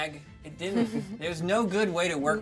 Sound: speaker chuckles

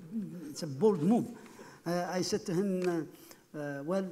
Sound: laughing

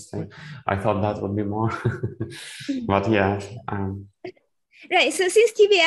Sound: laughs

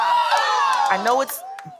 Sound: crowd whoops

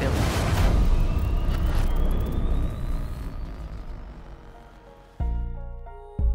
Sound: sound effects playing

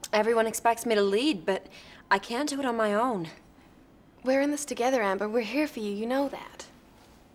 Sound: none

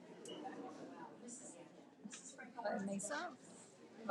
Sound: audience chattering

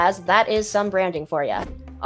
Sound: none

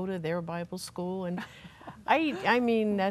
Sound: laughs

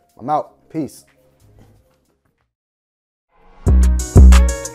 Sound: clothes rustling; chair rattling; relaxed R & B music

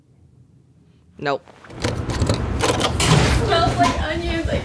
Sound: latch rattling

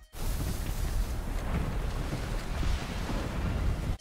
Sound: wind whipping

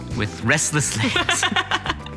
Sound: laughing

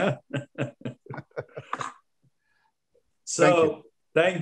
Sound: both laughing

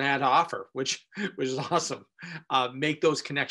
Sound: laughing

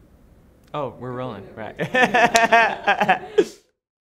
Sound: laughs

